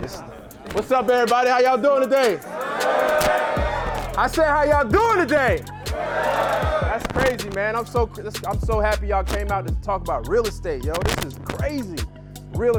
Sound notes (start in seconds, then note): 1.9 cheering